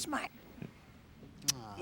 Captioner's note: kisses